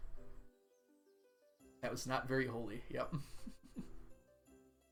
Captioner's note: chuckles